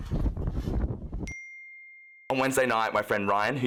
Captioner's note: dings